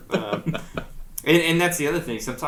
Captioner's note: laughs